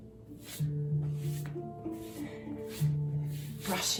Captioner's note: brushing